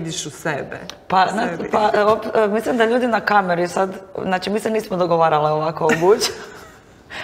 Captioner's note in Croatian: smijeh